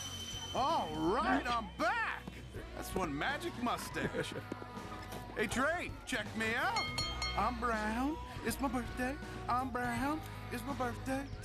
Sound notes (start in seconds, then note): 5.2 train bell clangs